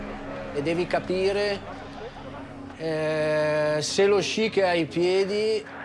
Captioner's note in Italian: parla in italiano